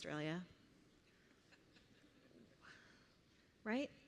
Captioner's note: laughter